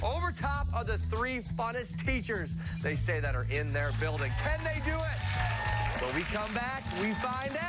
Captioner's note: bell rings; cheers and applause